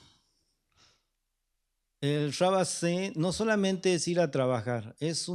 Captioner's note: speaking spanish